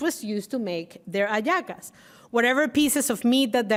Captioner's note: speaking Spanish